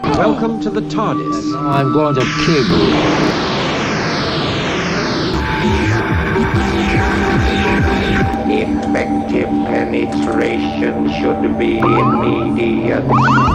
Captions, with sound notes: Welcome to the TARDIS And now I'm going to kill you. [hissing web guns] [throbbing all-surrounding heartbeat] Effective penetration should be immediate.